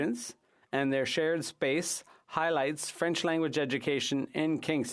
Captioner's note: french